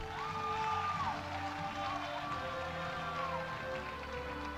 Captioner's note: audience applauding